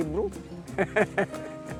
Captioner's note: chuckles